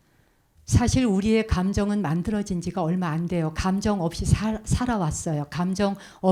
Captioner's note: speaking in Korean